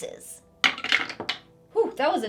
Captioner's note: dice rattling